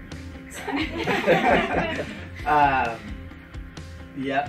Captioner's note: all laughs